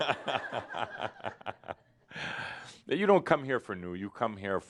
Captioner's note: more laughter